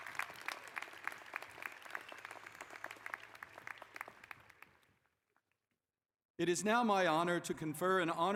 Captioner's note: applause